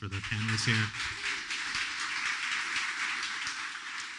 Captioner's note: applause